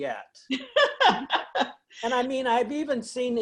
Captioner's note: laughs